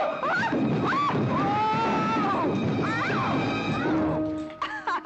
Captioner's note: tumbling down stairs; giggling